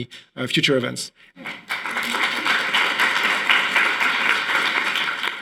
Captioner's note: audience applauding